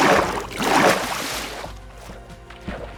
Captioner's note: water splashing